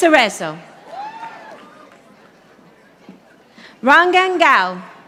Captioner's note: audience applauding